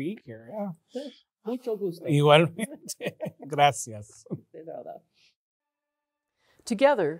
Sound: both speaking Spanish

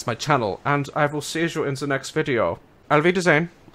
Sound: German accent

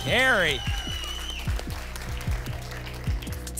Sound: applause and cheering

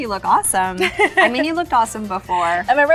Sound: laughs

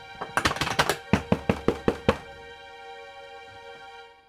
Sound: door knocking; dramatic music

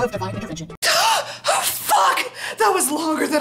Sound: gasp

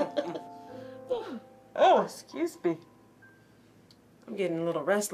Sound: all chuckles; yawning

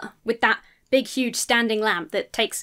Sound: none

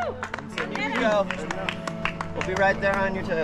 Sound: people chattering

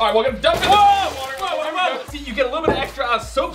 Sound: splash

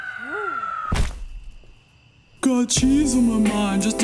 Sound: splat

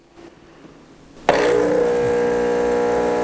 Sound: whirring

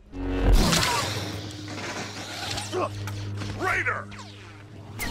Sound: lightsaber buzzing

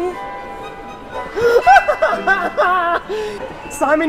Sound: laughs hysterically

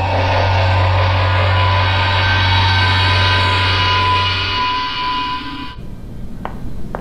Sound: Federation transporter buzz

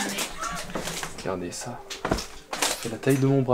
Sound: laughing

